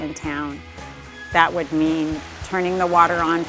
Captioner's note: water sloshing